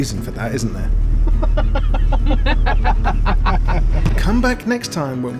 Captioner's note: laughing